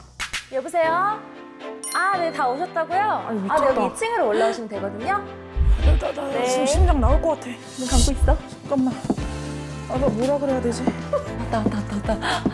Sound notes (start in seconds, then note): 6.7 heartbeat sound; 7.8 footsteps approaching